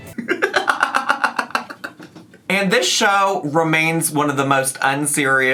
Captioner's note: laughing